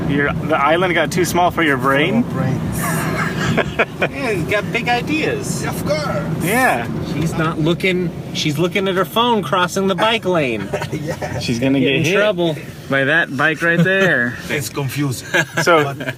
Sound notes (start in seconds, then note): 2.8 laughs; 10.5 laughing; 15.2 laughs